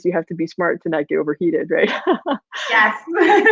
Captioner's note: laughs